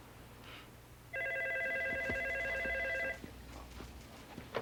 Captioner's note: phone ringing